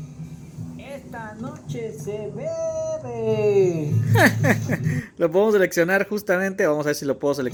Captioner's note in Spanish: risas